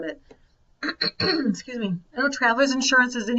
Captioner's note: clears throat